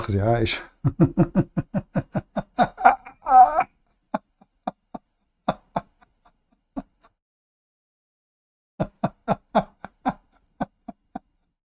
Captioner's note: Ketawa